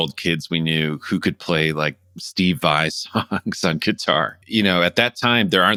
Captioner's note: laughter